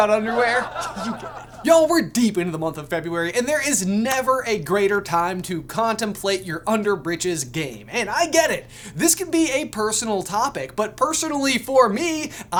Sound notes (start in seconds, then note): 0.0 canned laugh track